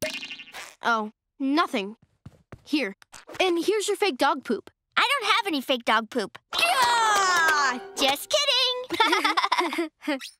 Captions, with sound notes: Oh, nothing. Here, and here's your fake dog poop. I don't have any fake dog poop. [screams] Just kidding! [laughing]